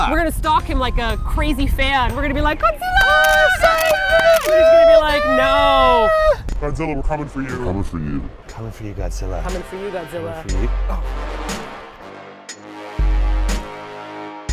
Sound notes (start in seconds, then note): 2.8 both shrieking like fangirls; 3.1 camera shutter clicking; 6.8 deep voice; 10.4 intense bass music